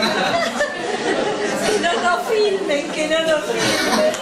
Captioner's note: laughs